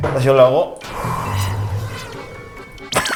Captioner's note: inhale